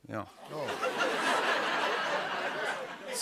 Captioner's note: laughter